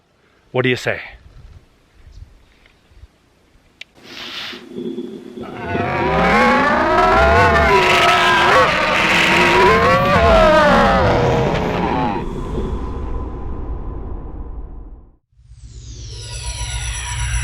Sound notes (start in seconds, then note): 5.4 special effects noise; 16.2 teleportation sound